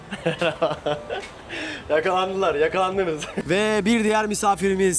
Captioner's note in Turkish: kahkaha